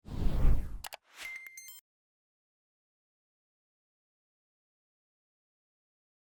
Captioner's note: mouse clicking; electronic jingle